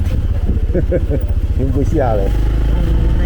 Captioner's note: laughs